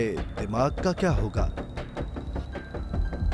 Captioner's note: beeping